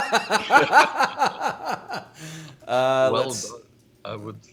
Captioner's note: laughing